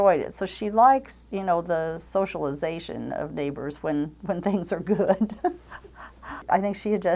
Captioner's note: chuckles